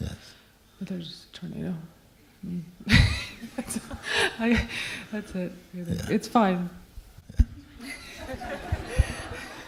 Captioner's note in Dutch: gelach